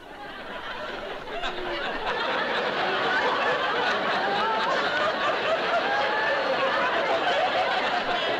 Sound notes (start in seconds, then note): 0.1 laughter